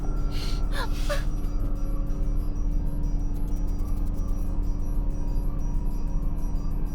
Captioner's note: Angie whimpers; tense music